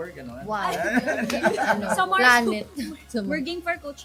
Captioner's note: laughing